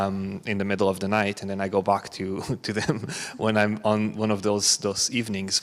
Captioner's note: chuckles